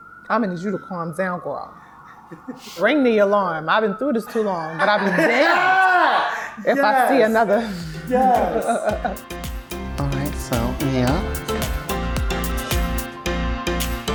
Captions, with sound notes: I need you to calm down girl. (laughing) Ring the alarm I've been through this too long. (laughing) But I'll be damned if I see another. - Yes! Alright so. (upbeat music)